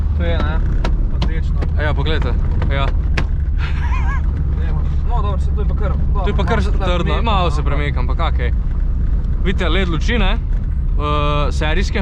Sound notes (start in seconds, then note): 3.1 smash